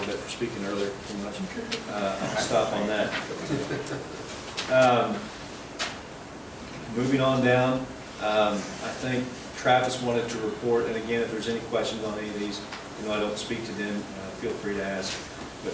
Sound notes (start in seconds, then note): 3.1 laughs